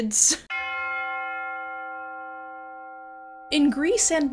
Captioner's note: bell chimes